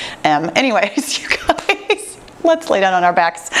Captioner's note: laughs